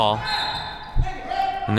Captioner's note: whistle blows